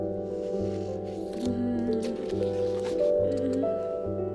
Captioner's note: groans